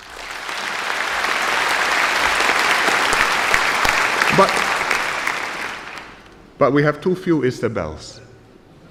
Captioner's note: applause